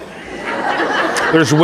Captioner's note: audience laughing